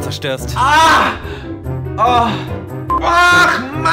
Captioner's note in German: Schrei voller Schmerz